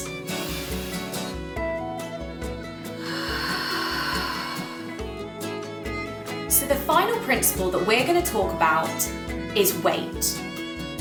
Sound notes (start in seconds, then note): 0.3 puppet breathes in; 3.0 puppet breathes out